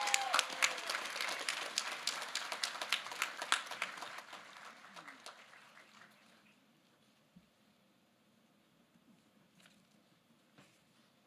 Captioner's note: cheers